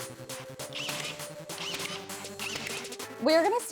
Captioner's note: tool whirring